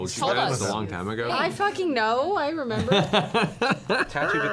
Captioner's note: laughs